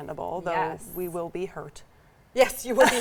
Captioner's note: laughs